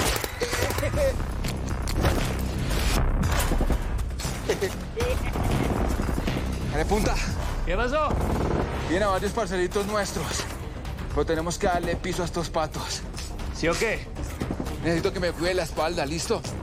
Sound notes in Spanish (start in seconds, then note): 4.4 Risas